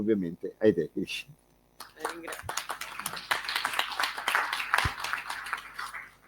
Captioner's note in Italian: Applauso